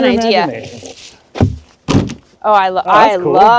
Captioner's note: boards thudding